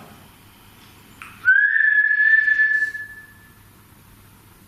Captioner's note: whistling